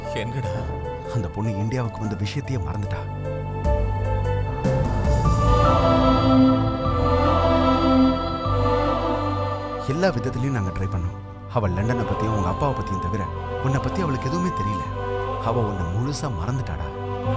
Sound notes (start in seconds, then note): none